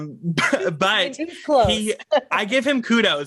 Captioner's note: laughs